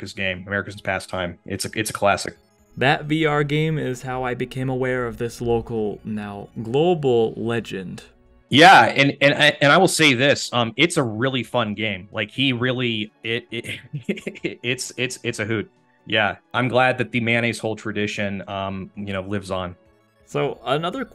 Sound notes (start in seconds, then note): 13.6 laughs